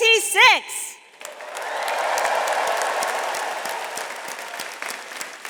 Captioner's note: attendees applauding